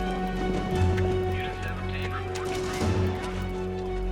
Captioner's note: man on PA